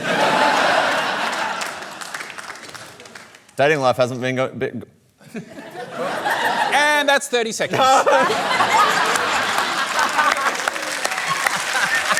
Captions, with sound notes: (LAUGHTER) Dating life hasn't been going... be... (LAUGHTER) And that's 30 seconds! No! (LAUGHTER AND APPLAUSE)